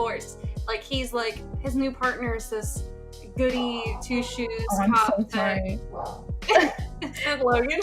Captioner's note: doggo barks; laughs